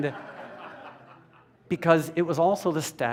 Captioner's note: laughter